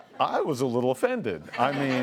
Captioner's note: laughs